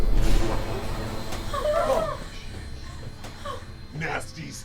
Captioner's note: whimpering